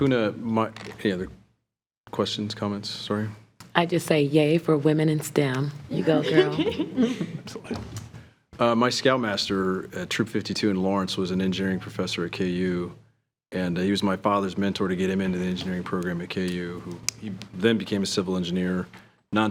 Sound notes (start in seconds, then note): 5.9 chuckling